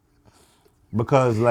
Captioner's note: laughing